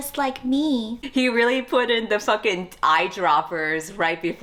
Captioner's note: laughs